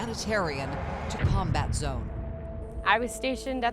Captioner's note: explosion rumbles